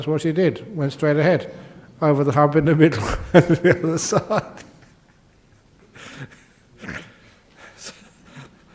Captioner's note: laughs